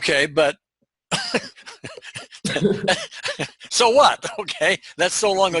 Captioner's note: laughs